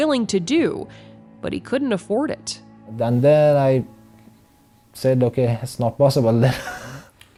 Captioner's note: laughs